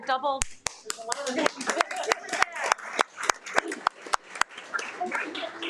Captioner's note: audience applauding